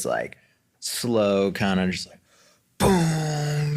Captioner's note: vocalizes